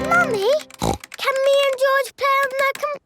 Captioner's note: snorts